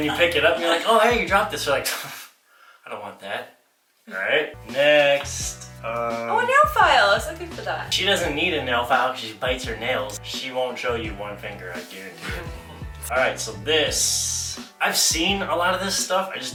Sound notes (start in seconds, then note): 2.7 scoffs